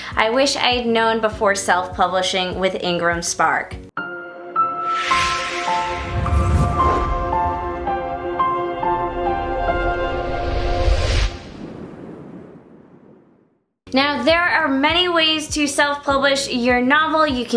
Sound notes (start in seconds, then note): 4.0 peaceful piano music; 4.7 wind rushing; 11.0 wind howls